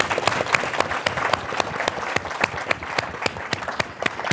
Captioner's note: audience applauding